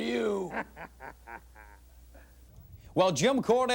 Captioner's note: Paul laughing